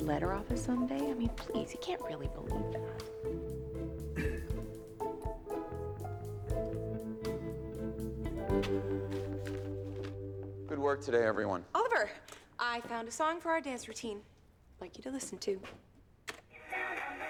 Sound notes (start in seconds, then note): 2.2 clears throat